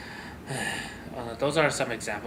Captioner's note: loud sigh